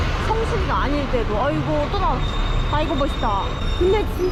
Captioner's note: Big Ben in the distance